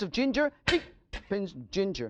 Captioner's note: knife clanging